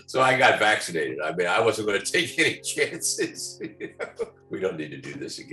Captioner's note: laughs